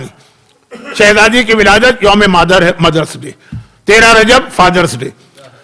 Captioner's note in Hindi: गला साफ़ करने की आवाज़